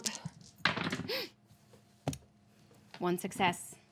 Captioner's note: dice rattle